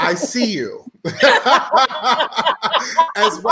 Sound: all laughing

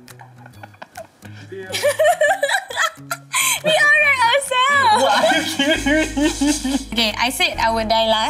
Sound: laughs

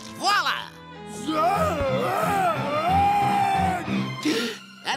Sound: screaming

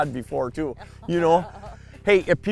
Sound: laughs

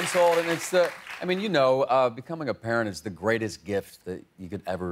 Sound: cheers and applause

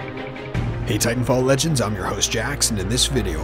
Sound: dramatic music; voiceover

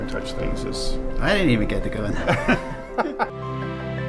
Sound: laugh

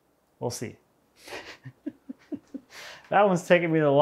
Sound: chuckling

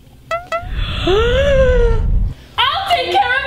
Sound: gasps

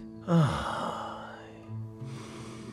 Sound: deeply sighs

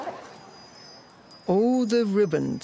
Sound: chimes twinkling

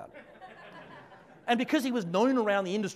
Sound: audience laughs

